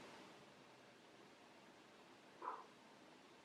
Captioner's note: dog continues barking